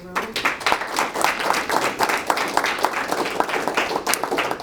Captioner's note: applause